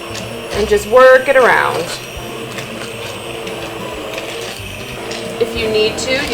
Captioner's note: blender whirring